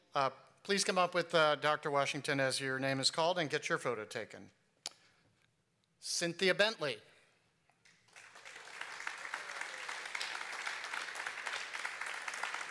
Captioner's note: applause